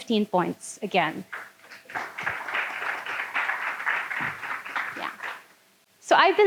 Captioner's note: audience clapping